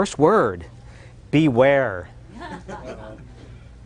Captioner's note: chuckling